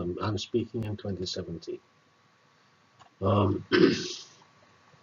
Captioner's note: cough